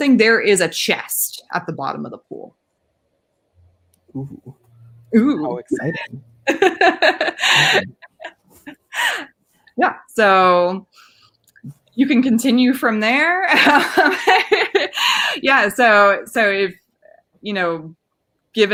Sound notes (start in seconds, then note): 6.4 laughing; 13.5 laughing